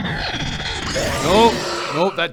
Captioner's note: unfriendly roar